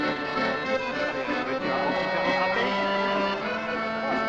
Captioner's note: speaking French